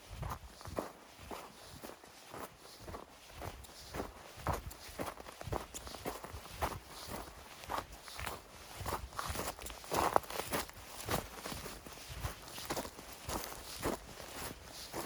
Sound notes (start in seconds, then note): none